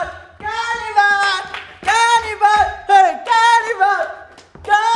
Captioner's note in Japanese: 手拍子